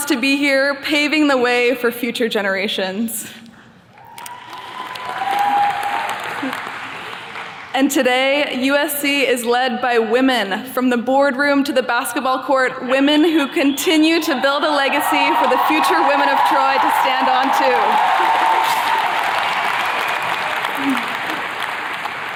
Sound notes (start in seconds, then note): 3.9 attendees cheers and claps; 18.3 attendees cheers and claps